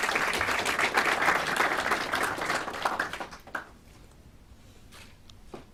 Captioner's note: clapping